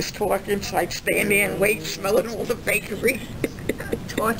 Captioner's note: laughs